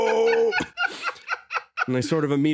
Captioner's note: laugh